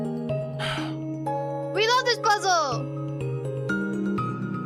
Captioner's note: sighs